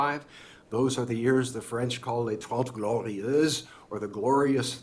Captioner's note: french